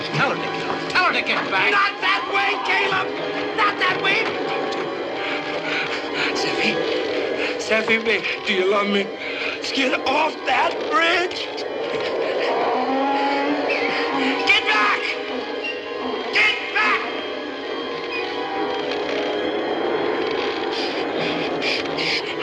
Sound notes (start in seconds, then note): 5.2 JONAH PANTlNG